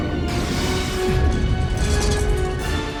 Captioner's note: explosion